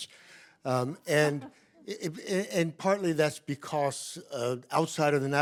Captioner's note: laughs